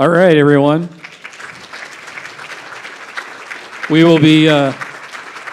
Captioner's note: audience applauding